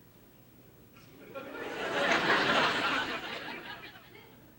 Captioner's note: audience laughing